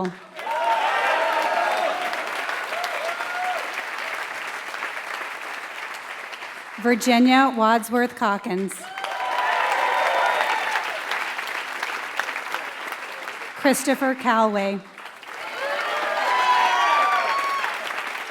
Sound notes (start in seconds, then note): 0.0 applause; 18.0 applause